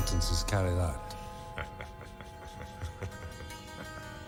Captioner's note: Harry laughing